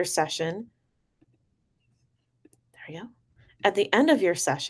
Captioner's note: long pause except for when she says "hurry up" to the document